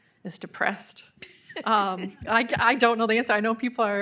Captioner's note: laughing